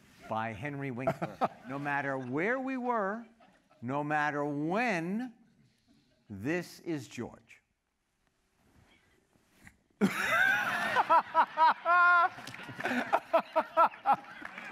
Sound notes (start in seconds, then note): 10.0 laughter